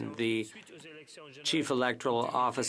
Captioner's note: speaking French